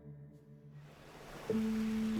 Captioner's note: waves crashing